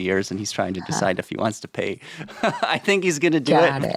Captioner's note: chuckles